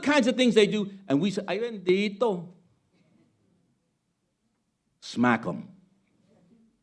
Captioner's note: speaking Spanish